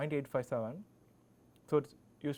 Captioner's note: click